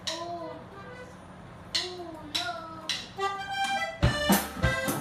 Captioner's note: speaks foreign language; norteño music